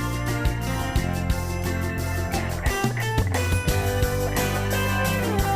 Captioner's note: none